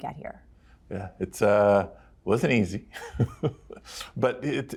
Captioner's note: chuckles